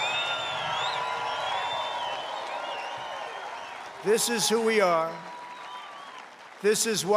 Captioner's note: applause